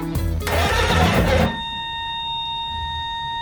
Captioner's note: buzzing